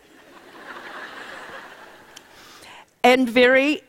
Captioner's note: laughter